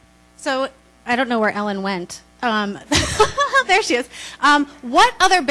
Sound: laughs

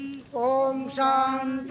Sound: chanting

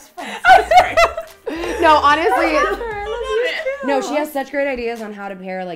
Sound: laughs

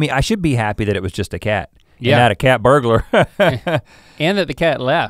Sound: chuckles

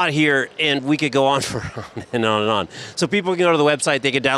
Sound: chuckles

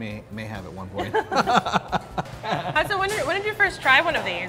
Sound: laugh

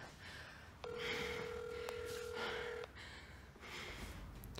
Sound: phone ringing

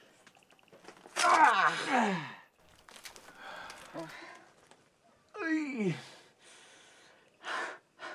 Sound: shouts / winces

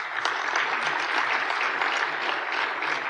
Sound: applause

